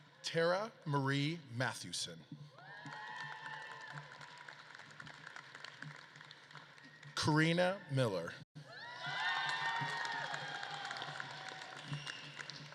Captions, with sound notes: Tara Marie Mathewson. (audience claps and cheers) Corina Miller. (audience claps and cheers)